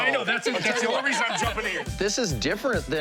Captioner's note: laughs